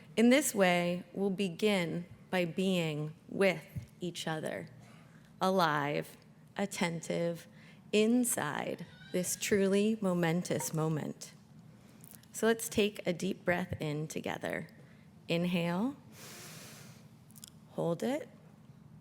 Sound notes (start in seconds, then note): 16.2 inhales